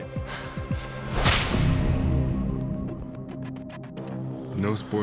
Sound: whip cracks

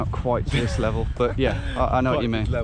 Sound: laughing

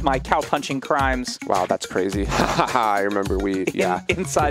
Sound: laughs

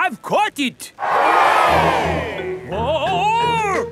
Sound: crowd cheers

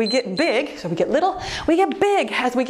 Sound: timer beeps

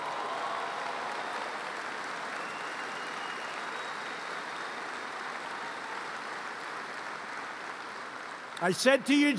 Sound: applause

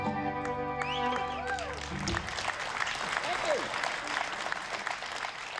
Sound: applause

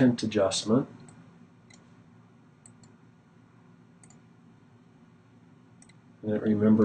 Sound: clicking

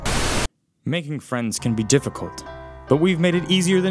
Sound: voiceover

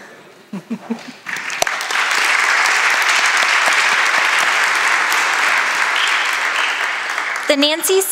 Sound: applause

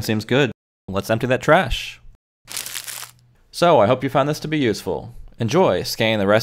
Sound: sound effect paper being wadded up

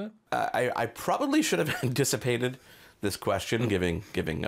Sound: chuckling

